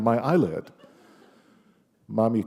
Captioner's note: laughter